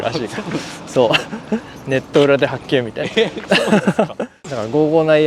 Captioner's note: laughs